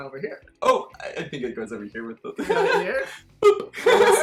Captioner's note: laughs